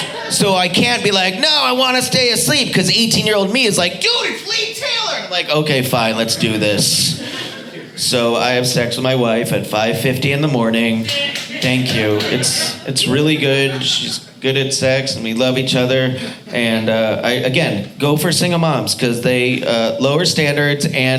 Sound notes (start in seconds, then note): 11.0 audience applauding